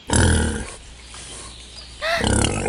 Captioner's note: gasps; animal grunting